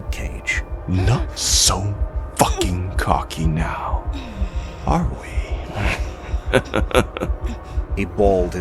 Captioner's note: satisfied laughs